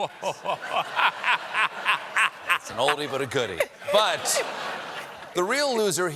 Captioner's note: laughter